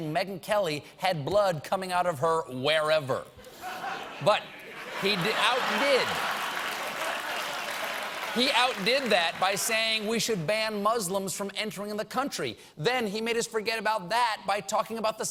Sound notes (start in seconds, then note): 7.1 applause; 7.1 laughter